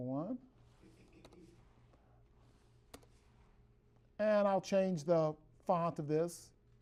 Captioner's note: typing on keyboard